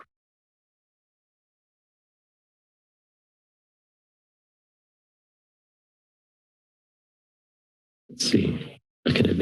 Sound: pause

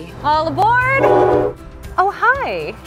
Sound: train horn blows

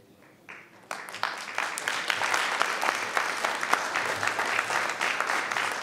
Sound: everyone applauding

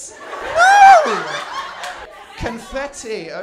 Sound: laughter

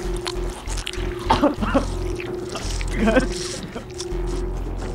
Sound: Jimmy coughing

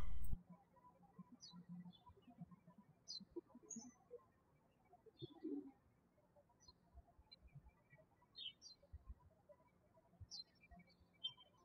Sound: birds chirping

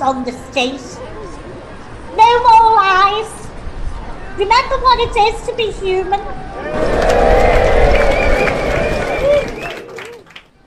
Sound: cheering and clapping from disabled people in the crowd

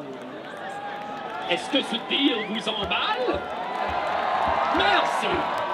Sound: crowd cheers

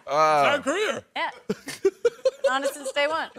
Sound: laughing

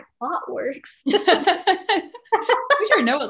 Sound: laughing

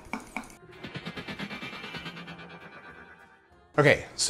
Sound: rapid vibrating

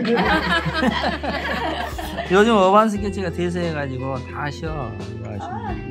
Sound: laughs

